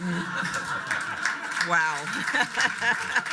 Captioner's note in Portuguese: aplausos da platéia; laughs